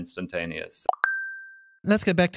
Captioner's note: notification sound